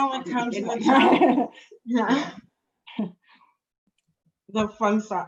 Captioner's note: laughter